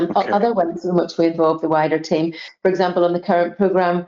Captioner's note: audio distorts 51.22